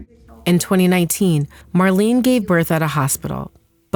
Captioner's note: none